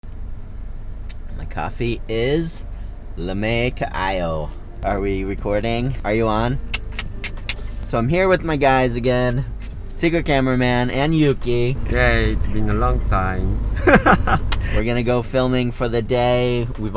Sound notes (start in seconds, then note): 6.9 clicking; 13.7 laughs loudly